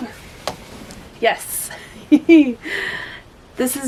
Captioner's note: giggles